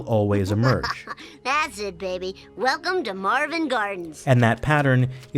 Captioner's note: laughter